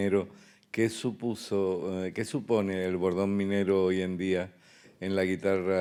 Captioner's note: speaking in Spanish